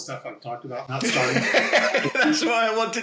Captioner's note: laughs